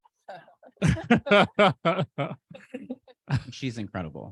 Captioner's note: laughter